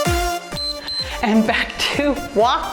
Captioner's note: timer beeps